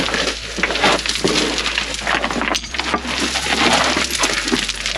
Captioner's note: rubble falling